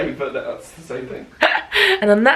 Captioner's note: laughs